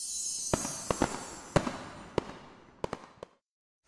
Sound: fireworks

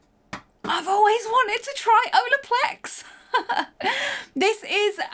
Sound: laughs

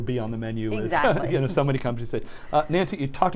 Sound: laughter

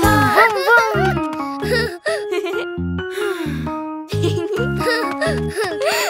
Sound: lighthearted music; all laughing

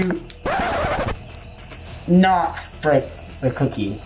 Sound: record scratching, crickets chirping

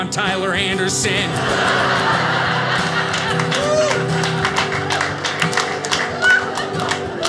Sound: audience laughing

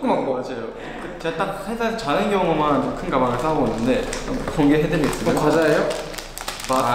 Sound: rustling

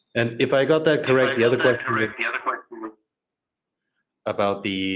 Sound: video echoes

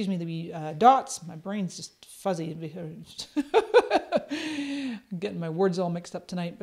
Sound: laughs

